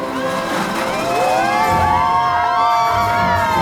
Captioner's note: group cheers